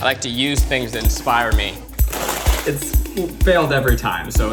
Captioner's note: bag crinkling